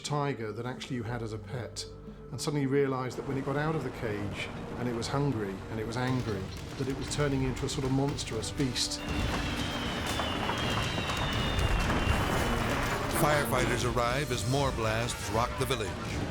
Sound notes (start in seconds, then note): 8.5 fireworks whistling and popping